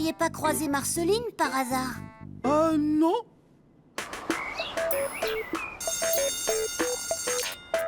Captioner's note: applause